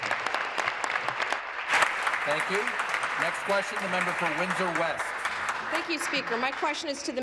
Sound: applause

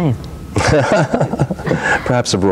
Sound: laughs

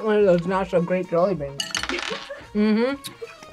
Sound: laughs

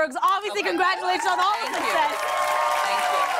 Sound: cheers and applause

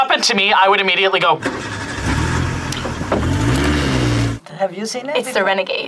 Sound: car engine revs

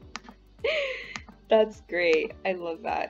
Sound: laughs

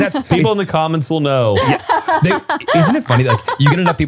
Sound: laughs

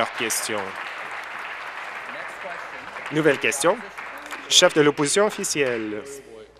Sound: applause

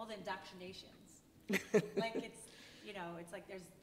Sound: laughing

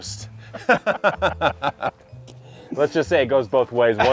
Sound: all laugh

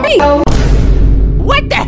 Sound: Vine Boom

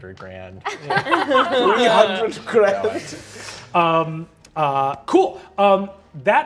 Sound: all laughing

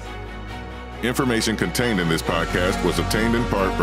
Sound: voiceover

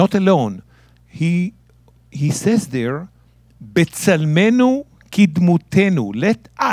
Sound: speaking in Hebrew

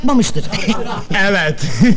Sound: laughing

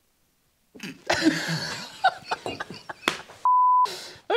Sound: laughter

